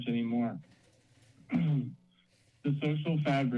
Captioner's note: clears throat